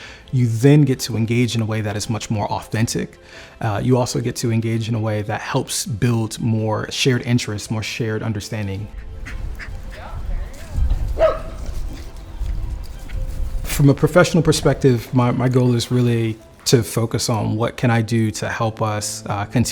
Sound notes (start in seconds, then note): 11.0 dog barking